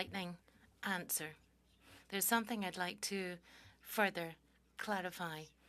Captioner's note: speaking French